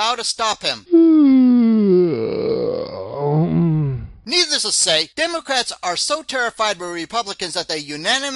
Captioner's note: sound of a Yawn